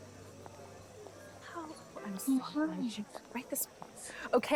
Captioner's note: indistinct conversation